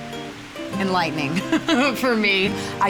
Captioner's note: chuckles